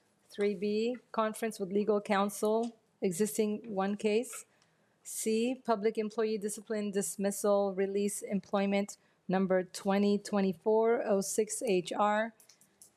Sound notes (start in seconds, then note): none